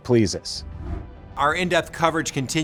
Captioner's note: graphics whoosh